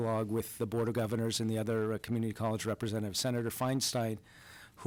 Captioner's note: none